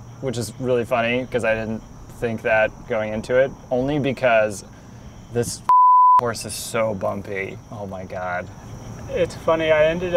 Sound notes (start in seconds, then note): 5.6 beep